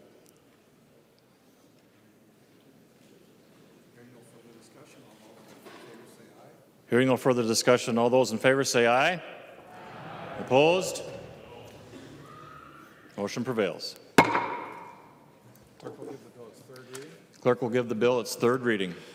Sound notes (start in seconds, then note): 15.8 chorus of ayes